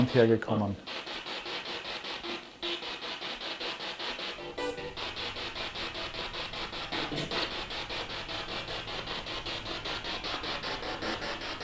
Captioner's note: sound of the Spirit Box in the background